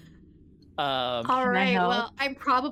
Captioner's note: laughing